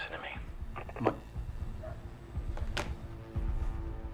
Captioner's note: phone clicking